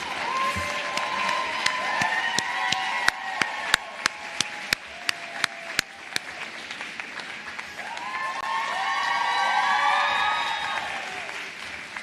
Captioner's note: cheers and applause